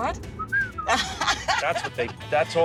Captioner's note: whistles